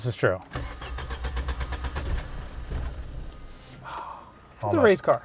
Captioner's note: engine starting